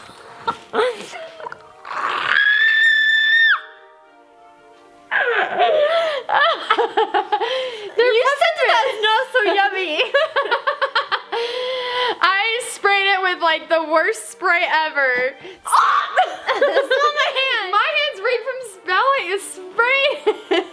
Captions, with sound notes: (screaming) - They're peppermints! - You said that that's - not so yummy. (laughing) - I sprayed it with the worst spray ever. (gagging) - Smell my hand. - My hands reek from spraying it.